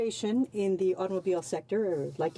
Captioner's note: speaking French